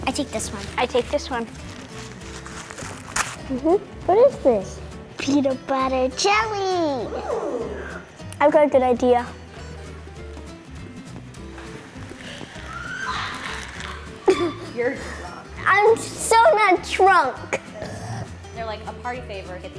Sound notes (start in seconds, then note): 12.6 laughs; 17.6 burps